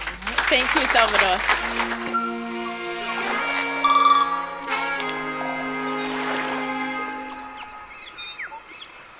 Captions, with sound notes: - Thank you, Salvador. (bright music) (bird chirps)